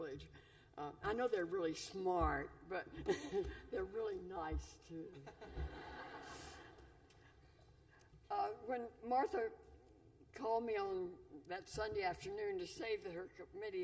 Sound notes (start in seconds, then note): 5.2 laughter